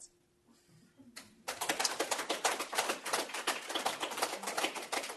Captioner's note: applause